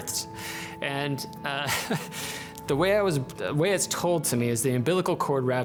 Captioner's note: chuckles